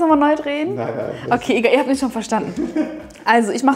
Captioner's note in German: lacht